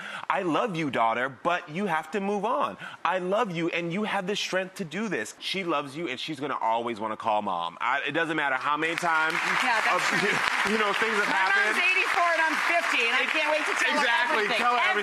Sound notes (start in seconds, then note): 8.8 audience applauding